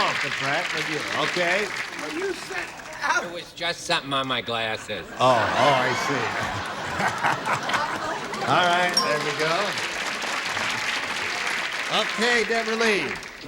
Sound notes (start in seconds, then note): 8.4 laughter; 11.8 applause